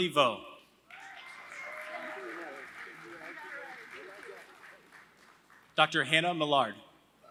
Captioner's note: applause; applause